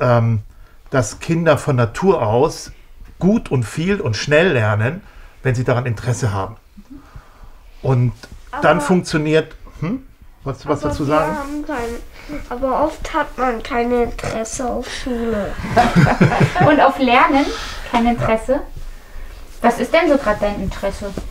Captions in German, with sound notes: dass Kinder von Natur aus gut und viel und schnell lernen. Wenn sie daran Interesse haben. - Mhm. Und dann funktioniert ... - Aber ... Hm? Wolltest du was dazu sagen? Aber wir haben ... oft hat man keine Interesse an Schule. (Gelächter) Und auf Lernen kein Interesse? Was ist denn grad so dein Interesse?